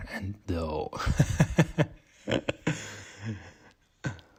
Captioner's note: laughs